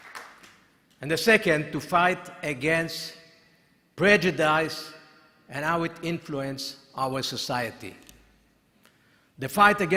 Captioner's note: applause